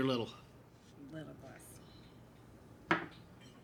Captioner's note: none